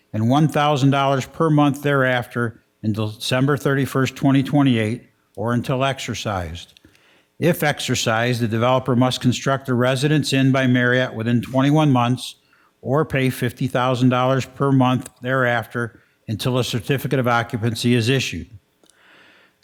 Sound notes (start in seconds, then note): none